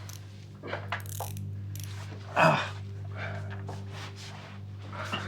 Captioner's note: handcuffs zipping closed; Terry moaning; tense music